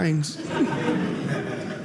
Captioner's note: audience laughing